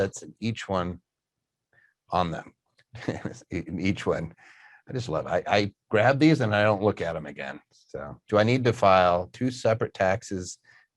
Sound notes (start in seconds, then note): 2.9 chuckles